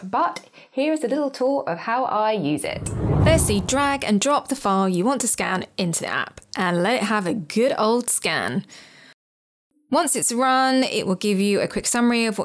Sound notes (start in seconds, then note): 2.6 screen whooshes